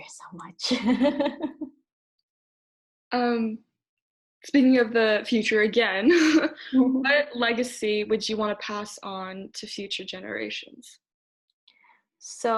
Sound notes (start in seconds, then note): 0.8 laughs; 5.1 laughs